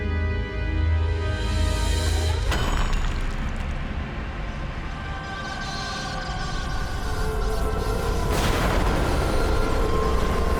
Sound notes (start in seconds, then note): 7.1 crackling; 8.3 thunderclap